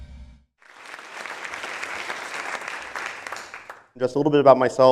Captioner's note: applause